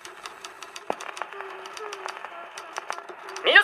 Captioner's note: humming